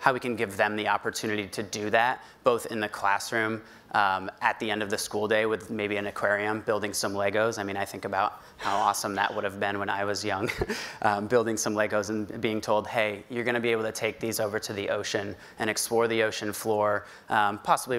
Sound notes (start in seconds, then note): 8.6 laughs